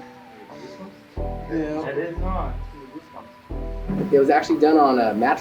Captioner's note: indistinct conversations